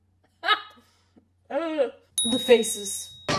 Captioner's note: unsettling inhale; ding; yelling